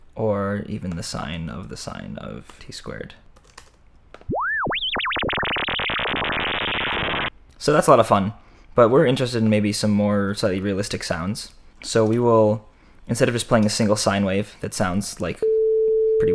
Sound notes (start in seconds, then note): 4.2 squiggle Sound; 15.4 beep Sound